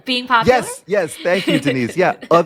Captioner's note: laughing